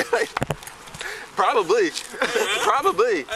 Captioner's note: laughing